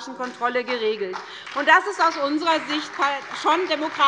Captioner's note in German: Beifall bei der SPD und bei Abgeordneten der FDP